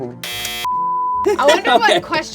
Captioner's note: buzzer buzzes; beep